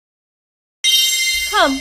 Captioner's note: single chime